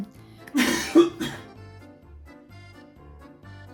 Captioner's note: man coughing